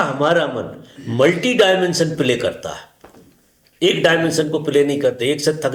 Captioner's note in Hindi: गला साफ़ करने की आवाज़